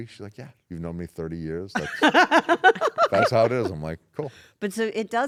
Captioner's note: laugh